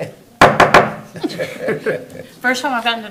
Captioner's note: gavel strikes